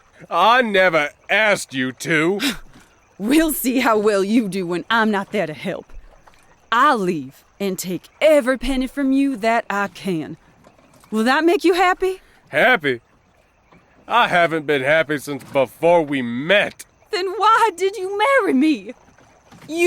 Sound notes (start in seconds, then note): 11.0 scoffs; 17.2 shrieking